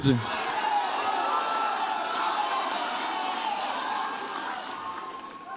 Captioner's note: audience applauds and cheers